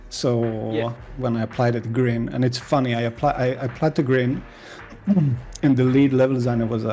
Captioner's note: clears throat